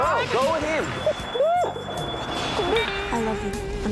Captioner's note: sobbing